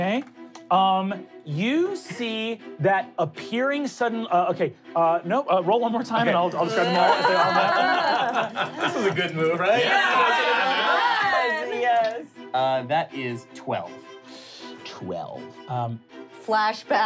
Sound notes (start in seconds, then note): 6.4 laughing